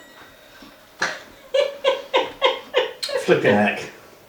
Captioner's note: laughing